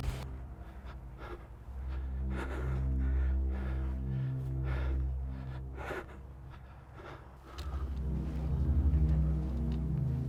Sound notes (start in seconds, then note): 2.2 Mercer panting